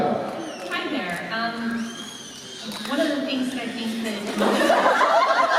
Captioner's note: baby screeches like a small banshee